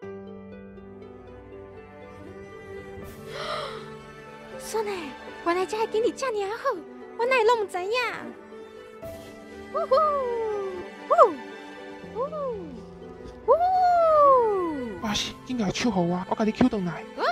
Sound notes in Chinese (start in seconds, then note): 3.1 倒抽氣